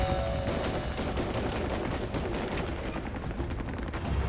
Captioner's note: guns firing